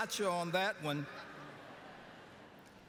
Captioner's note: lauaughghteter